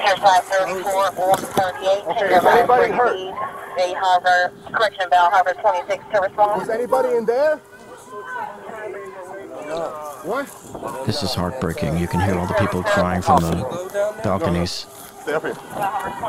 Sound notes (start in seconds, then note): 3.8 radio dispatching in background; 8.0 people hollering